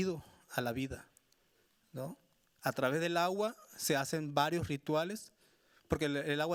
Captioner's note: speaking Spanish continues